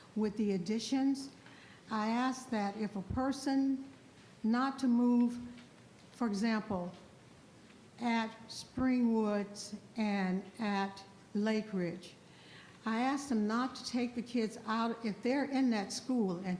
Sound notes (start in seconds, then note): none